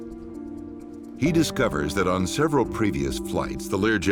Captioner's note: voiceover